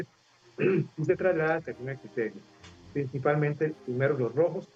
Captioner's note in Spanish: carraspeo